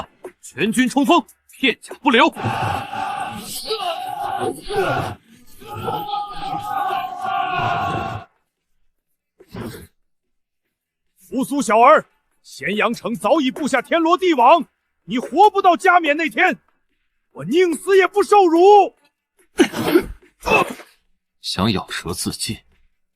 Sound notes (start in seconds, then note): 19.5 cough